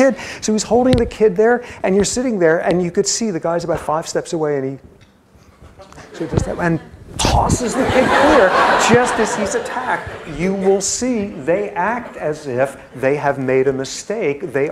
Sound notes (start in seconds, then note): 7.6 laughter